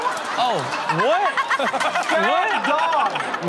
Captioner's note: all laugh